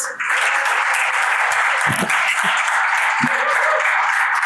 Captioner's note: audience applauds